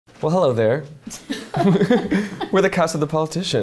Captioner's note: laughs